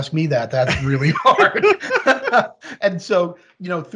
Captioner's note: laughing; laughs